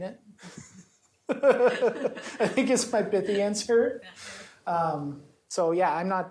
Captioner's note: laughs